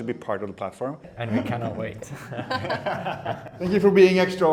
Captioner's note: laughs